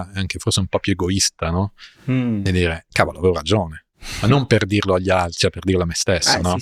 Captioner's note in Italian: sbuffare